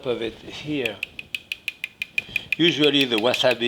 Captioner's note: spoon tapping